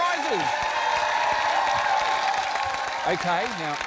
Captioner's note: cheering, applause